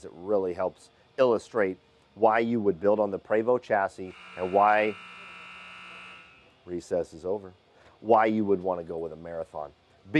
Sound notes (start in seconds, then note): 4.0 alarm buzzes